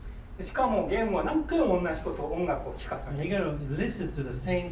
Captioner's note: speaking in foreign language